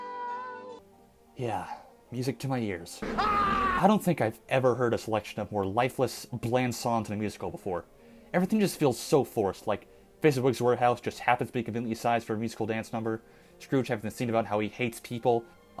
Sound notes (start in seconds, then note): 3.0 Nicolas Cage Screaming